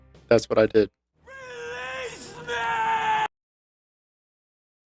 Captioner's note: screaming